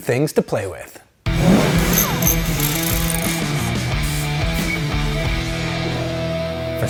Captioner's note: intense rock music; tools whirring